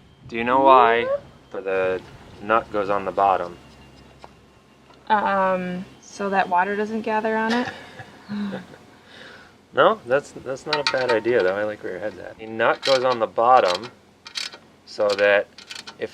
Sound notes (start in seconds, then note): 7.5 laughs